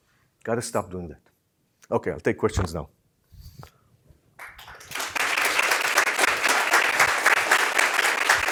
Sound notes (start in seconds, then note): 4.4 applause